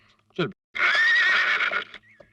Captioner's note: horse neighing